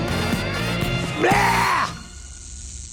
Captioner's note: screams